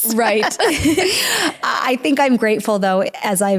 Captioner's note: laughs